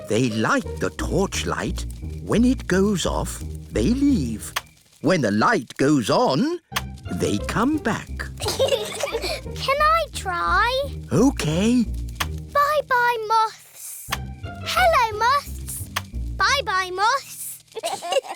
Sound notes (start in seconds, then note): 8.4 peppa and george giggle; 17.7 both giggle